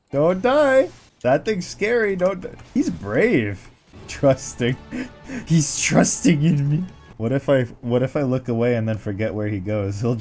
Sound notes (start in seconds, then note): 4.7 laugh